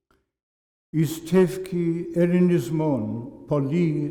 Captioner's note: non-english speech